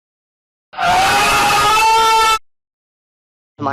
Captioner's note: loud moaning